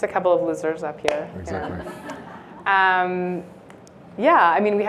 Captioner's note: laughter